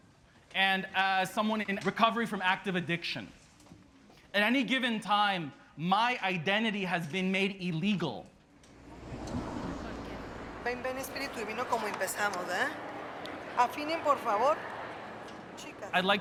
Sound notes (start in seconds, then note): 8.4 traffic roars; 10.8 performer speaking in Spanish